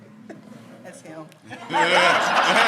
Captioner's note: everyone laughs; laughs